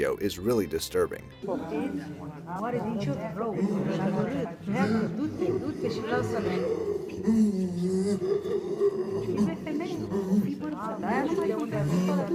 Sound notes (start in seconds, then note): 1.7 people talking in foreign language; 4.6 creature grunting